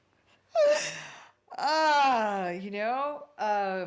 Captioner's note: gives a loud breath and a laugh